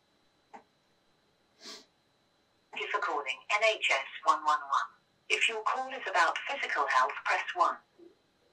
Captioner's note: voice over phone